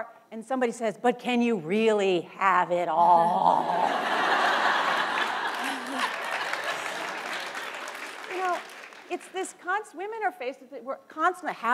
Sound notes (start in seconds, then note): 3.7 laughter and applause